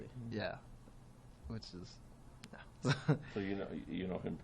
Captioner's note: laughter